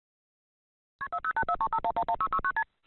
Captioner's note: telephone dialing